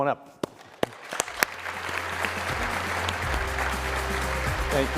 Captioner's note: applause